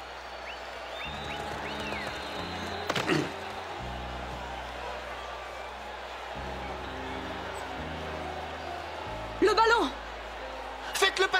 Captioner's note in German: beifall